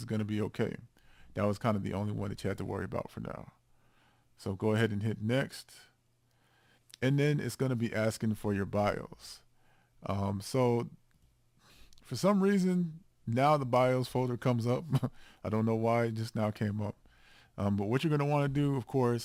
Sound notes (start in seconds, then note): 14.8 chuckles